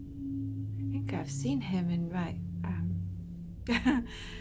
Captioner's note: laughs